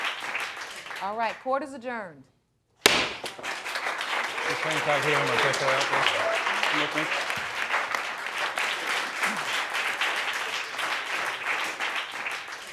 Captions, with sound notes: All right, court is adjourned. (AUDIENCE APPLAUDING) Come with me.